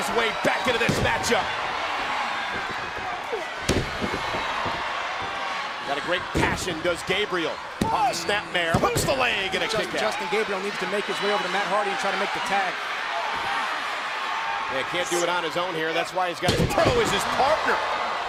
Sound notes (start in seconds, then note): 3.2 crowd cheering